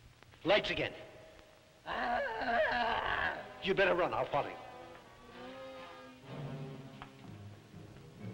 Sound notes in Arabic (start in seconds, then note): 1.8 بوبوكا تتأوه